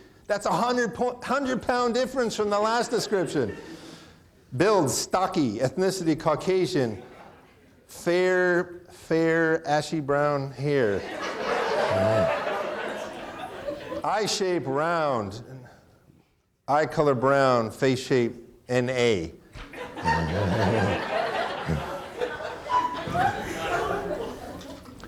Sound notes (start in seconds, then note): 10.8 audience laughing; 10.9 chuckles; 19.6 audience laughing; 19.6 chuckles